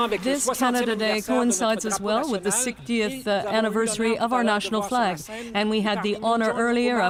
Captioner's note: applause